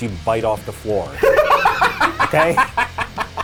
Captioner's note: laughing